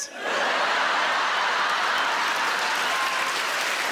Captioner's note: laughing; audience applauding